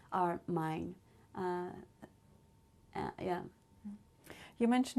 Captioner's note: pauses for 3 seconds